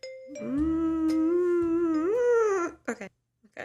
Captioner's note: distressed noises